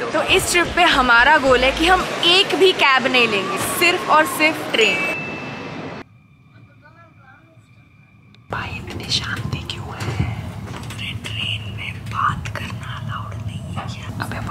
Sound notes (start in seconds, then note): 8.2 whisper